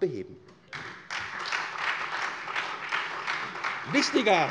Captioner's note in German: Beifall SPD und Freie Demokraten